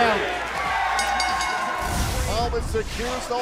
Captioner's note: bell ringing